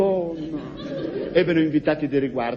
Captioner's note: laughs